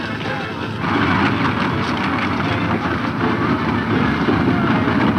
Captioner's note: wagons rattling loudly